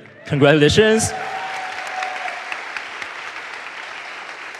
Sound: audience applauds

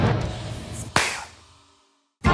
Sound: claps hands

